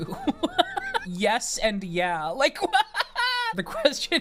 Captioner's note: laughs